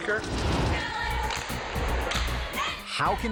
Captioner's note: people clapping; logo swooshing; cheerleaders chanting